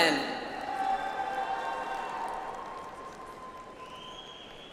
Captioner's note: audience applauds